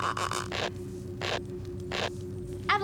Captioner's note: squeaking